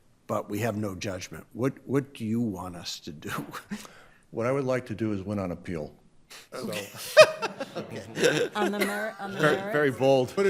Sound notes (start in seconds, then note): 6.6 group laughing